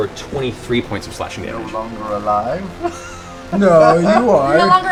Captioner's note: laughs